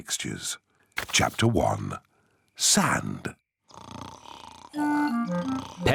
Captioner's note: snoring